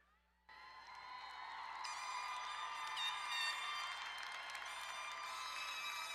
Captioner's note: crowd cheering and applauding